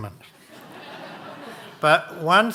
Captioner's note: audience laughing